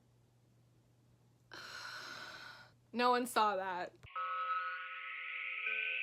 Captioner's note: sighs